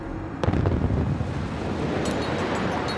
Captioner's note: explosion